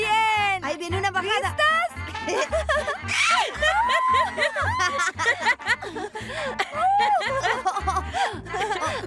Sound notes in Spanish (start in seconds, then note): 2.2 todas riendo y gritando